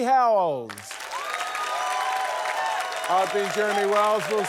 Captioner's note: cheering, applause